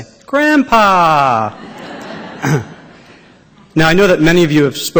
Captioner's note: laughter